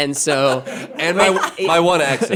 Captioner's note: laughing